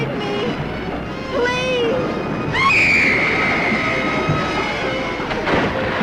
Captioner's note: screaming; water splashing